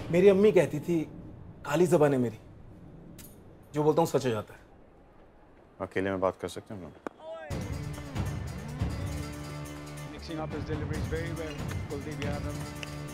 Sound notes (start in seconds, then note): 10.2 TV playing